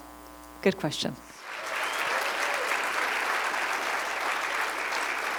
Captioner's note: applause